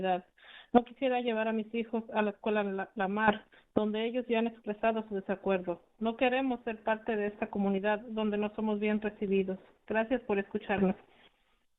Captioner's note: speaking in spanish